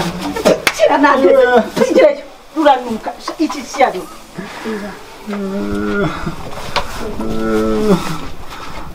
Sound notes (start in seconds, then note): 6.1 whispering